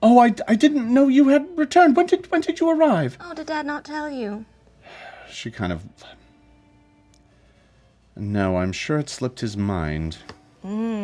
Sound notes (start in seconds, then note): 6.1 sighs; 10.9 hums knowingly